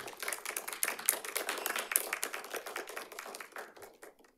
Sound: audience applauds

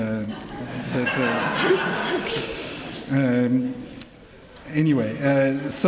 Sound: laughter

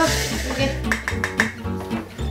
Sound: SFX: Tap tap tap tap

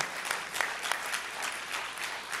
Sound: applause

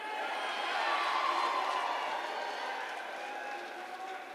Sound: cheering

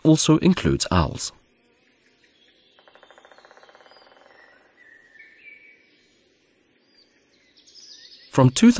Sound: sounds of nature

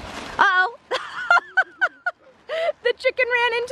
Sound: thump sound; laughs

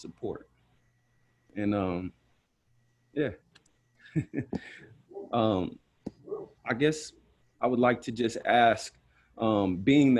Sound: laughter

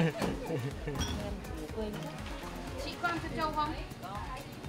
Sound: chuckle

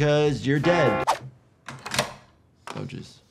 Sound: lock clicks

